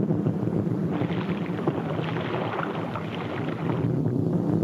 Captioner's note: water splashes